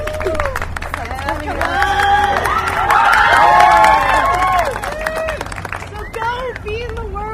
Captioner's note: cheers and applause